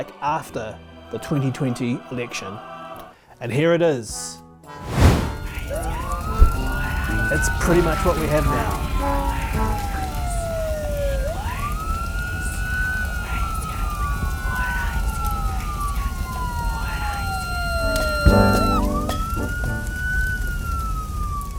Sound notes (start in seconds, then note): 11.3 presenter humming